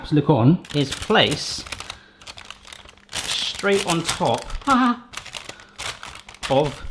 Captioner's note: yells shakily